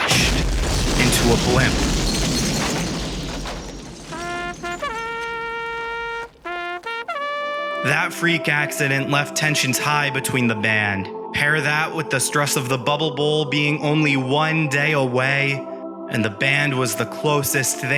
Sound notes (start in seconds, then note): 1.9 crashing; 4.0 trumpeting